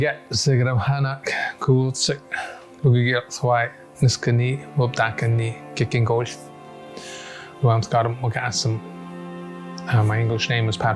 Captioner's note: speaking First Language